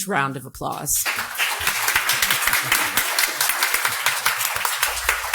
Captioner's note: audience applauding